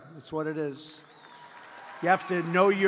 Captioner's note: applause